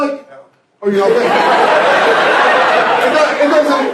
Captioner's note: laughter